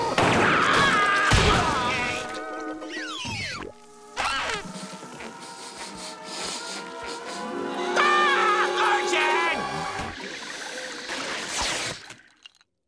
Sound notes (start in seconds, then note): 0.0 screaming; 4.6 sniffing; 7.9 screaming